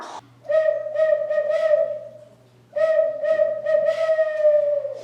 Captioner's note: mouth call hoots